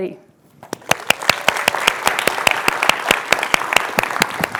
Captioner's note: applause